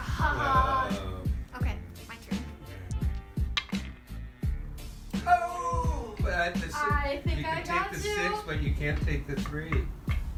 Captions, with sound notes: (both laughing) - Okay, my turn. - All right. (both scream) - I think I got you. - You can take the six, but you can't take the three.